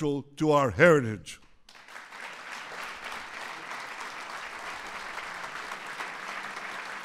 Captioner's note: applause